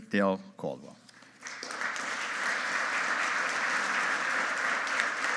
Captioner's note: audience applauding